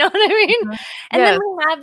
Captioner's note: laughing